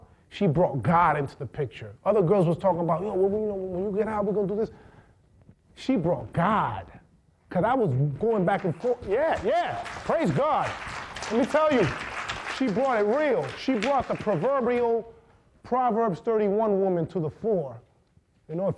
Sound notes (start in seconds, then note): 8.5 audience applauding